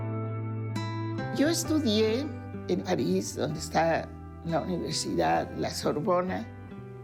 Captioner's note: in Spanish